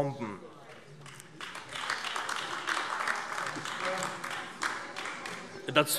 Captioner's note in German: Beifall AfD